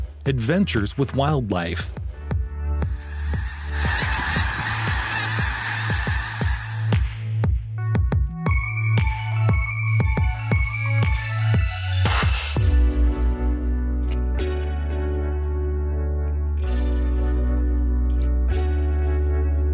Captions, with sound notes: Adventures with wildlife. (birds squawking) (calm music)